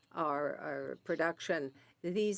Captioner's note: speaking French